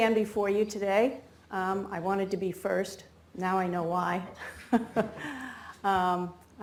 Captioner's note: laughs